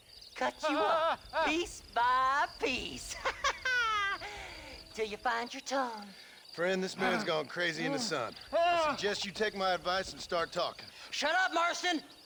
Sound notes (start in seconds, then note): 3.0 laughs